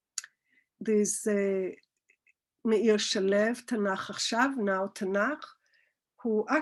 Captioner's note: Hebrew